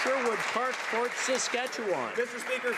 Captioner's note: some Applause